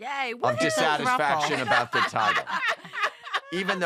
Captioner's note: laughter